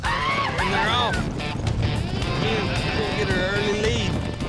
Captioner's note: hoofbeats, shouting